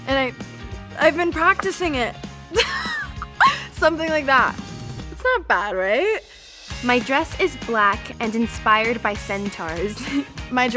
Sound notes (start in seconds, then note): 2.6 laughs